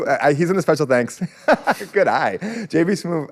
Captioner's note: laughs